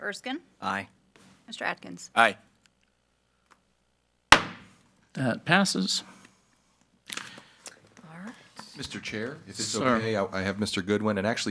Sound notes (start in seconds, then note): 4.3 gavel banging